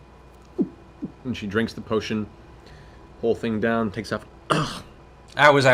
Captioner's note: coughs